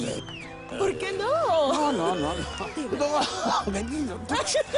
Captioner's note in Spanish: Risas